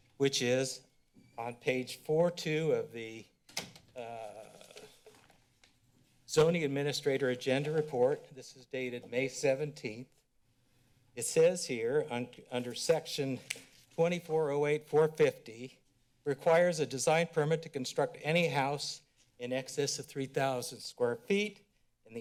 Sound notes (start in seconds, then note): 3.4 door closed; 4.4 paper rustling